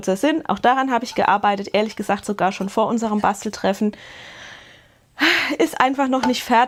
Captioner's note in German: seufzt